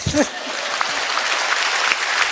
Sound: applause

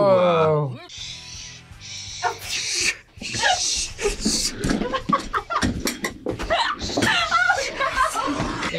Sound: laughs; both laugh

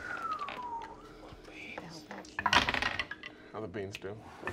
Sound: dice rolling

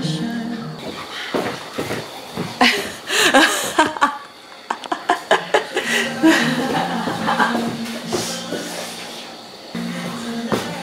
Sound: laughter

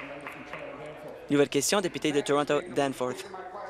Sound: applause

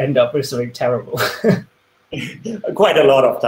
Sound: laughs

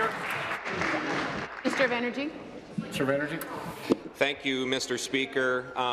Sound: applause

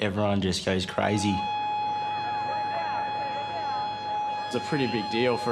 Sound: siren wailing

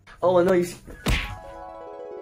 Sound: smack!!!

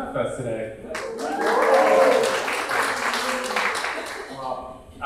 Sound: audience cheering

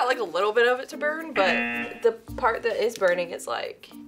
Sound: buzzer rings

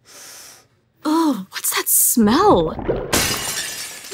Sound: sniffing; glass breaking

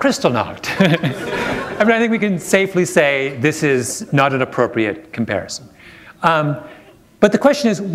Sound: laughter

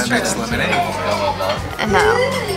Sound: laughter

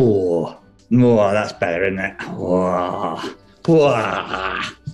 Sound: groans

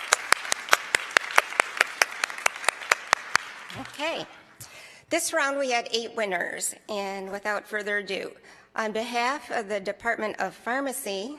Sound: applause

